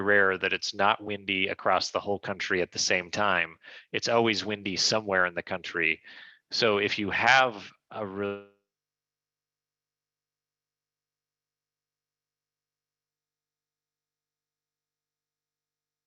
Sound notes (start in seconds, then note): 10.5 audio gap